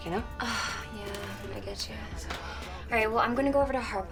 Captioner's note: sighs